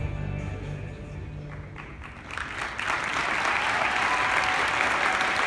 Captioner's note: cheers and applause